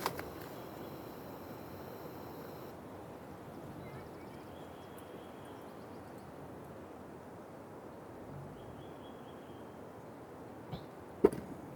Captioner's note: birds chirping